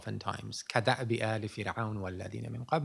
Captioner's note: non-english speech